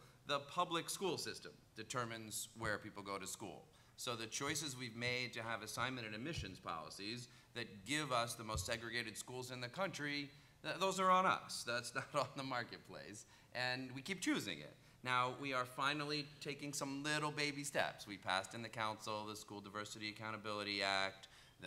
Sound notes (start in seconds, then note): 12.0 chuckles